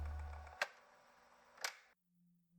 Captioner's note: fx: tape recorder stops